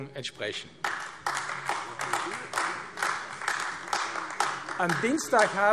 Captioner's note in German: Beifall AfD